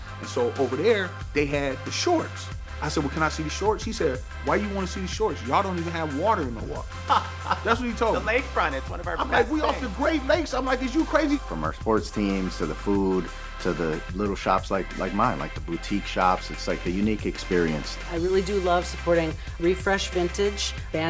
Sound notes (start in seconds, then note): 7.0 laughter